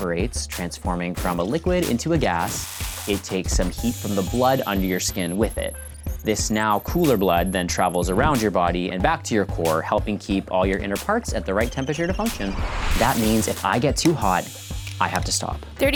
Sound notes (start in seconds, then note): none